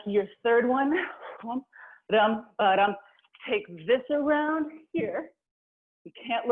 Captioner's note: vocalizing a rhythm